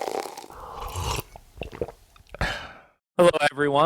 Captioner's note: coffee pouring; person sipping coffee